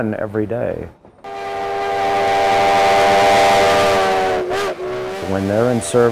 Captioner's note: train whistle blowing